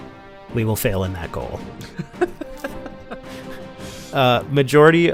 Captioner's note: laughter